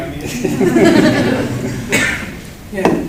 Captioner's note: laughter